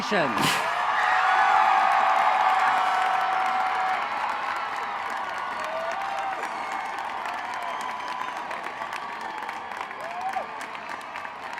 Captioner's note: cheering